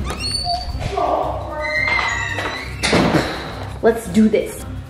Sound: door creaking

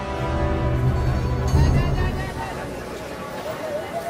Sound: crowd clamouring

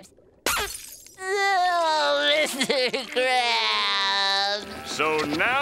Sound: crying

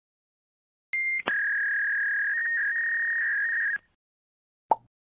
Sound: video recorder rolling

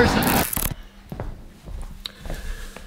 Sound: static

